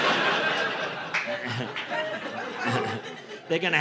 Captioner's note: audience laughing